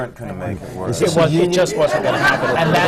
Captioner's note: laughter